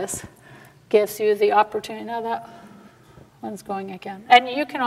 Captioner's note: aside, quietly